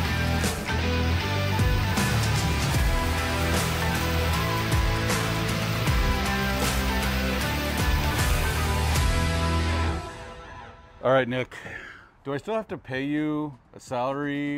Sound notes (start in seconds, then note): 0.8 exciting music continues; 0.8 steaks sizzling